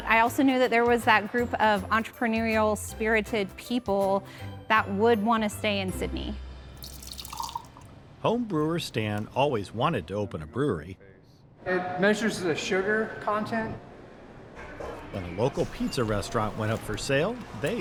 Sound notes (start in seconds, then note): 6.8 liquid splashing; 14.1 metal clanking